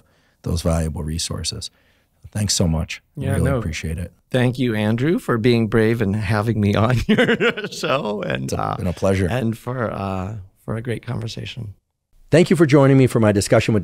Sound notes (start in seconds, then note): 6.9 laughs